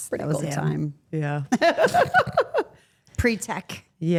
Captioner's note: Steph laughs